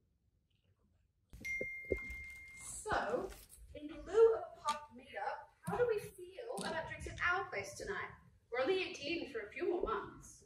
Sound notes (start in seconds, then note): 1.4 text tone